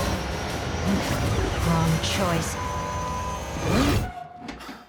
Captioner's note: beep